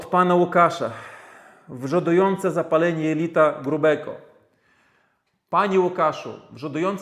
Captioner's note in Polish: westchnienie